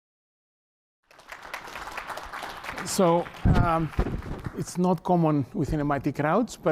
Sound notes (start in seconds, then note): 1.0 applause